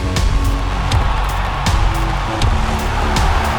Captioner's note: crowd cheering